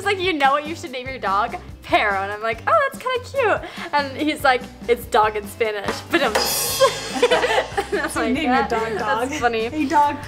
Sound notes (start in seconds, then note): 5.9 drum playing; 6.7 laughing